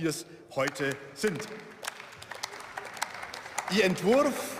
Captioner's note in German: Beifall